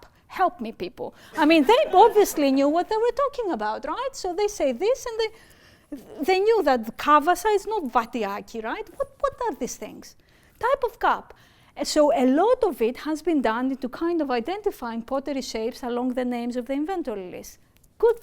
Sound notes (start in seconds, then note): 8.1 speaking greek